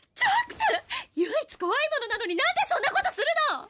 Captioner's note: none